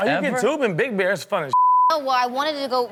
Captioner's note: beep